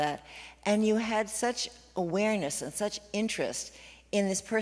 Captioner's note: none